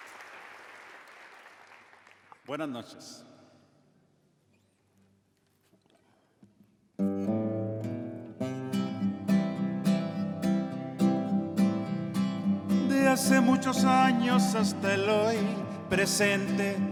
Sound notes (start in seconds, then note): 2.8 speaks foreign language; 13.0 singing in foreign language